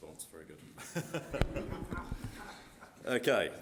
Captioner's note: crowd laughing